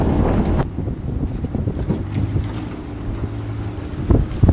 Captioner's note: wind blowing